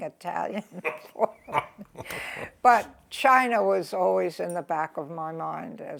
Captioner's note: laughs